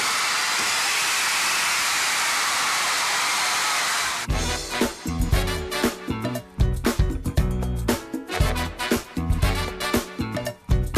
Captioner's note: crowd cheering